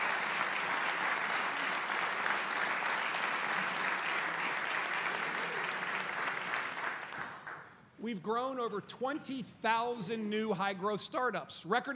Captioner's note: applause